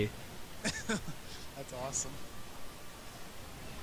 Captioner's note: laughing